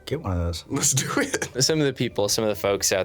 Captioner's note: laughing